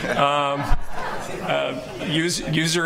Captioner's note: laughing